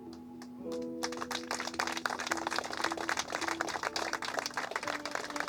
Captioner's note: applause